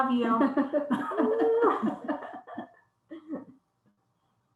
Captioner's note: all laugh